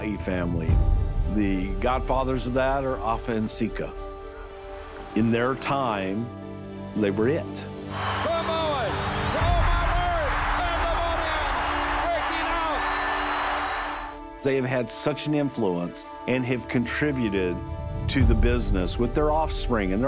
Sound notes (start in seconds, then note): 7.9 applause